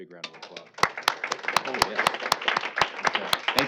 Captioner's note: applause